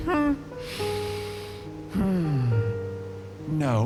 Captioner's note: deep inhale of frustration